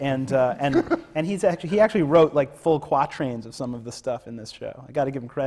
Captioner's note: laughs